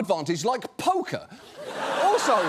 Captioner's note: audience laughs